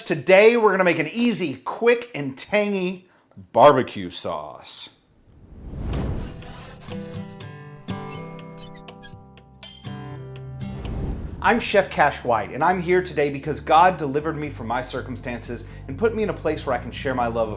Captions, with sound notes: Today, we're gonna make an easy, quick, and tangy barbecue sauce. (lighthearted music) (logo creaking) I'm Chef Cash White and I'm here today because God delivered me from my circumstances and put me in a place where I can share my love